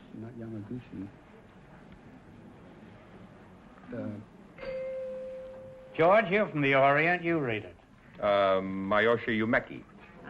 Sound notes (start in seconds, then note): 4.6 chime rings